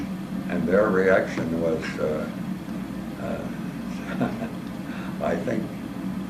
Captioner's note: laugh